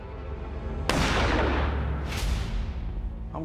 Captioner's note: gunshot